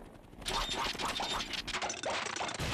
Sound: engine sputtering

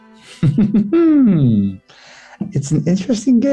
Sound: chuckles impishly

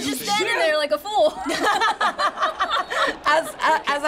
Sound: laughing

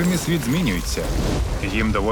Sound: ice crackles

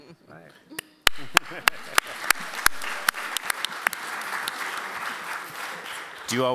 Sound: applause

